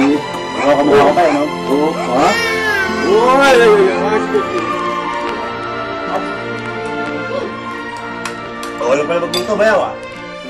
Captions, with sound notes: She really looks like you, Dad, doesn't she? -Hey. Okay, okay. -[baby wails] So you can cook after all, bro.